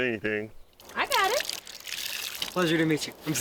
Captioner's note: water sloshing